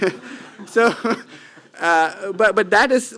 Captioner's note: chuckling